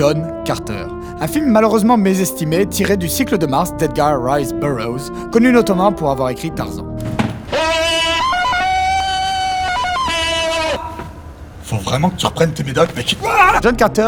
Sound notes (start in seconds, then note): 7.4 Tarzan’s scream